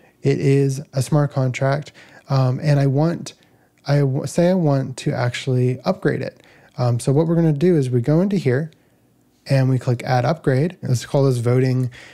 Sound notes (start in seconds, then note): none